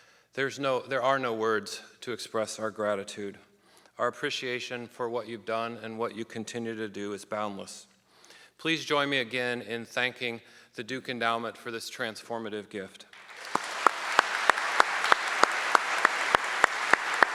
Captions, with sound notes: There are no words to express our gratitude. Our appreciation for what you've done and what you continue to do is boundless. Please join me again in thanking the Duke Endowment for this transformative gift. (audience clapping)